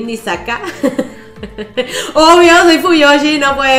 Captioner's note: nervous laugh